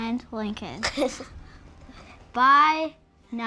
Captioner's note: laughter